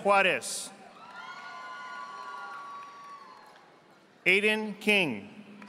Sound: audience applauding

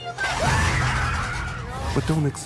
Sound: screams

